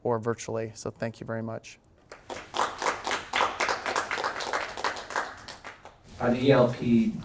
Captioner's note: applause